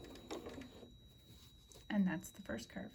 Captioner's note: sewing